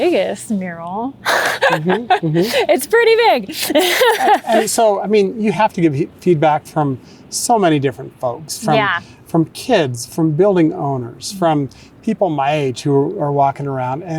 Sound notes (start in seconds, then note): 1.2 laughing